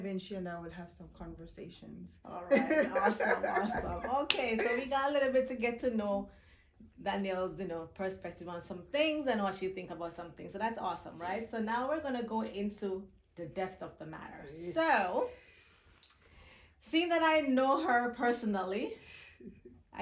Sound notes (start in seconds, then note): 2.5 chuckling